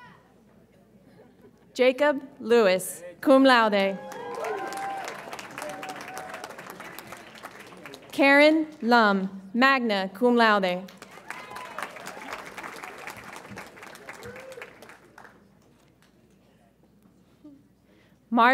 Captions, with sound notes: Jacob Lewis, cum laude. (audience applauds and cheers) Karen Lum, magna cum laude. (audience applauds)